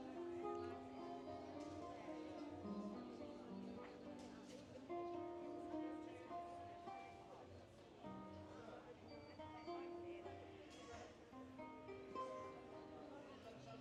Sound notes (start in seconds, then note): 2.7 people chattering